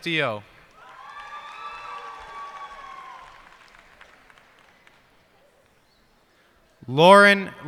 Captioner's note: cheers and applause